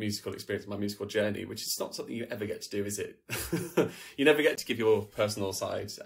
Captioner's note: laughs